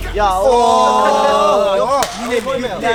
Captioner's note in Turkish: Ooo!